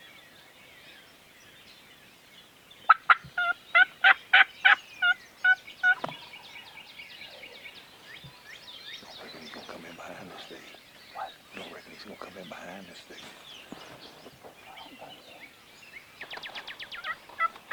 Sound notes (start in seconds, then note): 0.1 birds tweeting; 2.9 turkey call device yelping; 5.8 turkey faintly gobbling; 7.3 birds tweeting; 14.9 hunter whispering; 16.3 birds tweeting; 16.9 turkey call yelping